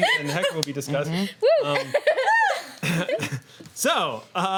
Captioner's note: laughing